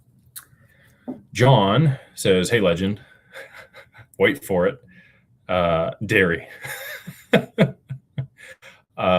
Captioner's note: laughter